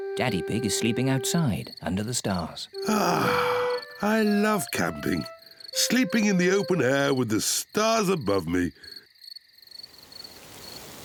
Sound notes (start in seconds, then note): 2.8 sighs